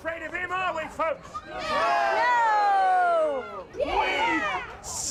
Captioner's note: crowd shouts